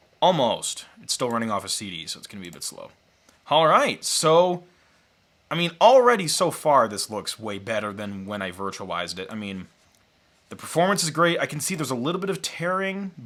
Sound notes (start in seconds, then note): none